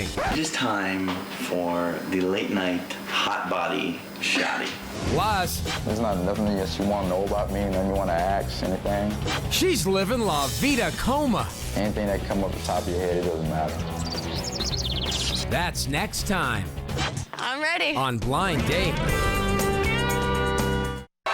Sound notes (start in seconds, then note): 0.0 record scratches; 13.6 bird chirps; 18.1 upbeat rock music